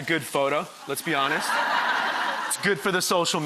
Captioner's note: audience laughter